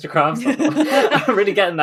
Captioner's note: laughs